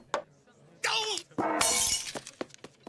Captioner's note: glass breaks